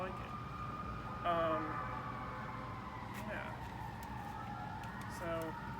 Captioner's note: sirins